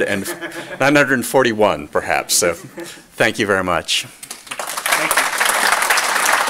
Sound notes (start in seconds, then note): 4.2 applause